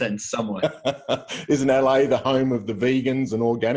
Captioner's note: laughs